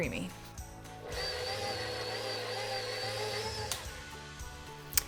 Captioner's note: mixer roaring